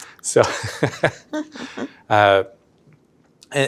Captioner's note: laughs